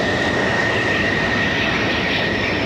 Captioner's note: landing plane